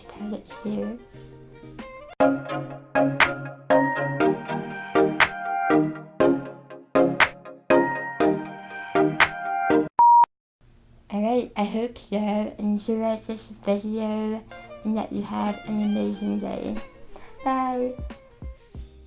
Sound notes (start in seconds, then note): 10.0 beep sound